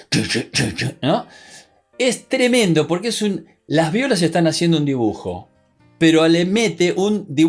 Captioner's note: guttural sounds